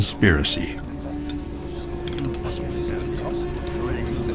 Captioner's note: indians chattering